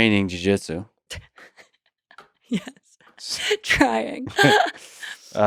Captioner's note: laughs